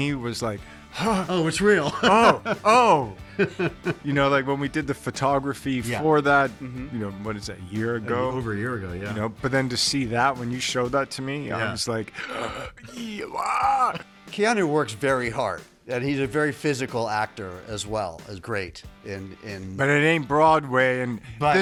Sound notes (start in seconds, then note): 0.9 laughing; 12.1 gasps; 13.1 Keanu lightly yelps